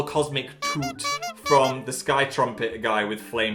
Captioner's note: horn tooting